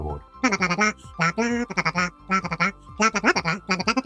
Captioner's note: speaks gibberish